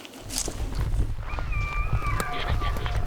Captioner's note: elk bugling